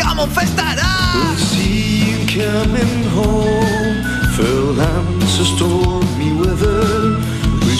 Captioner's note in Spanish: En escocés dórico